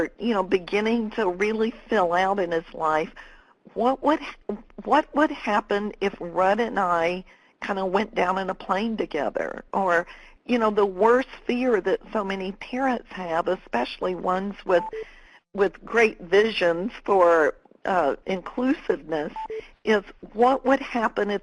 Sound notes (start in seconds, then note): none